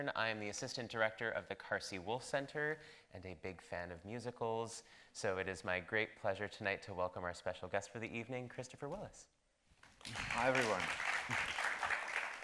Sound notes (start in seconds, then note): 10.0 audience applauding